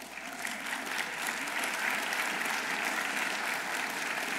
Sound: audience applauding

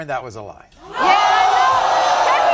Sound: audience gasping

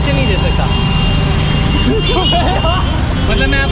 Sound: laughs

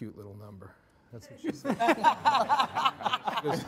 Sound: all laughing

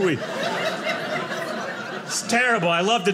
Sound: audience laughing

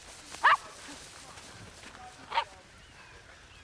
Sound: dog barking

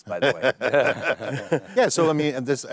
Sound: everyone laughing

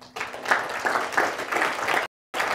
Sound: applause

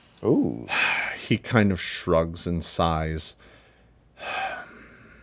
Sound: sigh

